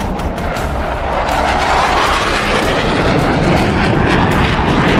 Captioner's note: engine roaring